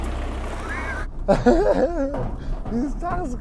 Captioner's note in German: Lachen